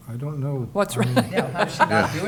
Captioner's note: laughs